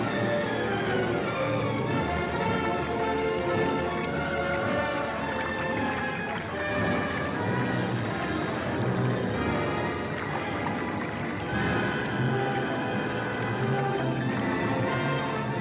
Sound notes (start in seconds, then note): 4.3 liquid bubbling; 4.3 sinister ominous music